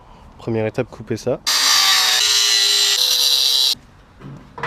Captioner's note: delicate and melodious grinding noises